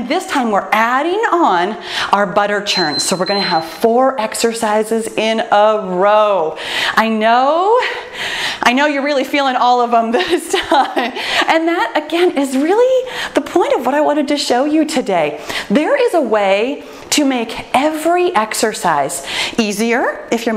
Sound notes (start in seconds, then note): 2.6 timer beeps; 11.2 laughs